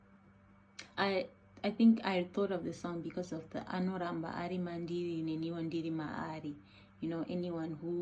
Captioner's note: in Shona